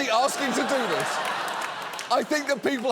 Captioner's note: studio audience laughing